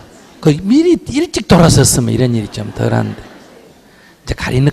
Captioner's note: audience Laughter